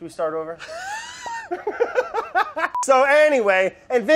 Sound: both laugh

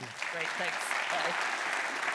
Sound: applause

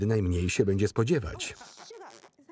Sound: imitates farting

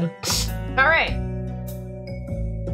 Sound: sniff

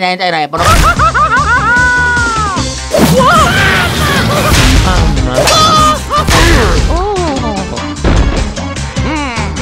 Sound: screaming

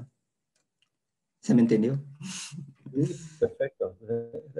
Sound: spanish

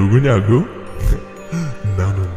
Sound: laughs

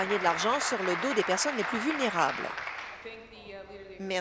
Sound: applause

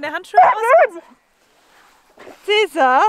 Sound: Caesar is barking

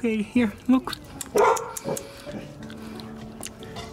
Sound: tongue clicks

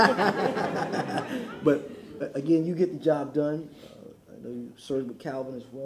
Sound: laughter

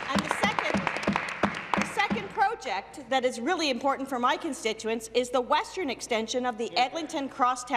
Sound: some Applause

